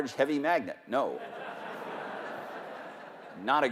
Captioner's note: laughter